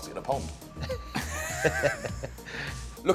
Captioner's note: laughter